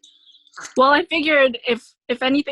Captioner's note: laughing